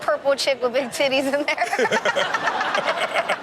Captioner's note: laughs; everyone laughs